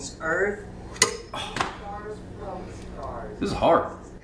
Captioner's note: ring thuds